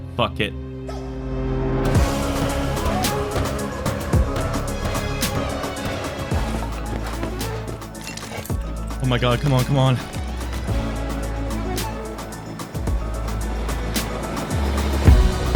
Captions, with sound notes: fuck it! *rockets launching* Oh my God. Come on, come on.